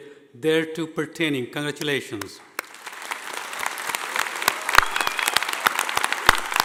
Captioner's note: audience applauding